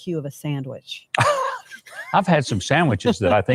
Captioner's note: laughs